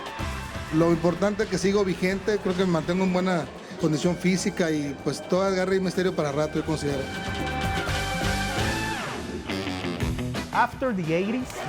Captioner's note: rock music; Rey Misterio speaking Spanish